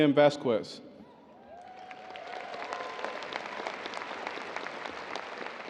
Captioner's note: audience cheering and applauding